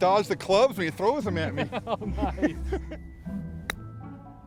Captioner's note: laughs